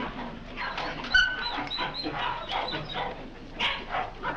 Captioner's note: dogs whimpering